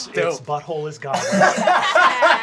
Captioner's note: laughing